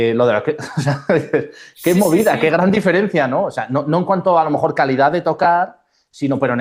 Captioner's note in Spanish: risas